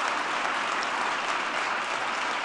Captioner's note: applause